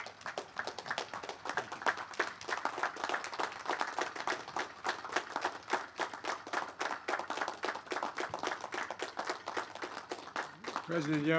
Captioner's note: applause